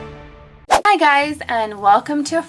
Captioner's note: upbeat music; whooshing